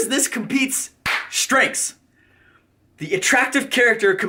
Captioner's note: claps